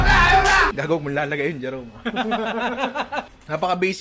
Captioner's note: laughter